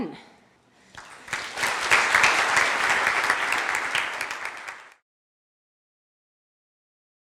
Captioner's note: applause